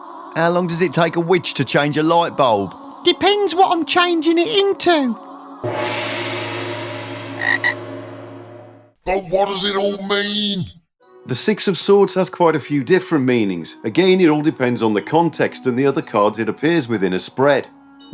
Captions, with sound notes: Fool ”How long does it take a Witch to change a lightbulb?" WITCH “Depends what i’m changing it into” [ GONG SOUND, RIBBIT ] But What Does It All Mean? The 6 of Swords has quite a few different meanings, again it all depends on the context & the other cards it appears with in a spread.